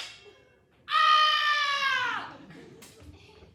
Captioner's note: screams